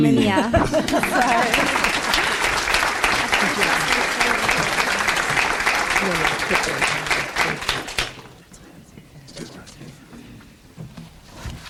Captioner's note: audience applauds